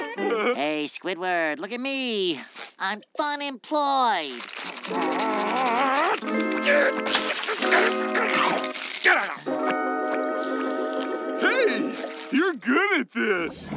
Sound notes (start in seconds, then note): 5.2 growling; 6.4 grumbling